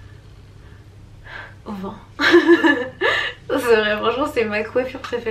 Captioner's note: laughs